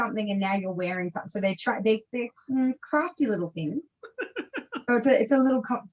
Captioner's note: laughs